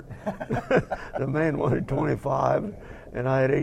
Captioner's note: laugh